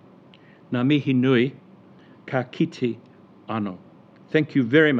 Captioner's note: speaking foreign language